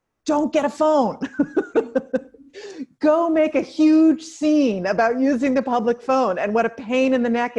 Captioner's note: laugh